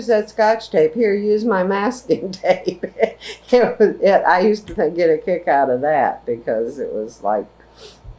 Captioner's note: laughs